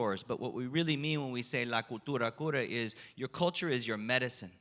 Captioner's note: spanish